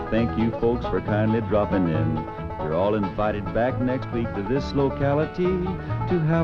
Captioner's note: upbeat music; audience laughing